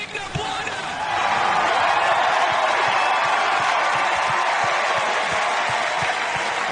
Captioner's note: huge audience cheer